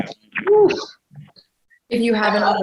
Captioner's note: exclaims